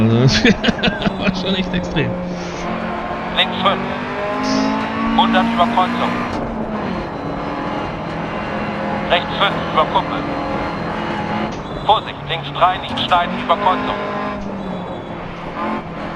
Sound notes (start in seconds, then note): 0.0 laughs; 2.6 engine noises and instructions from the co-pilot